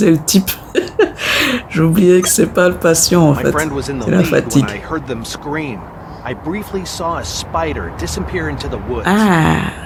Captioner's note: laughter